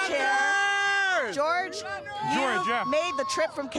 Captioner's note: cheers